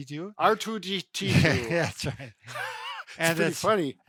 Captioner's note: laughs